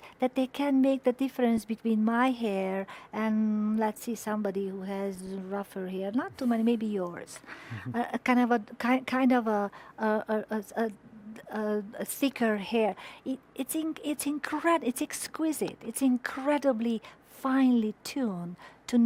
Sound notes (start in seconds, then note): 7.7 chuckles